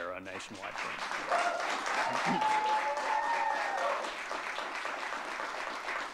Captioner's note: audience cheering and clapping